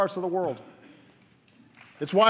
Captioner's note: applause